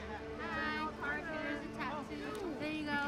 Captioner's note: talking in background